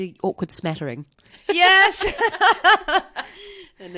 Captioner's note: laughs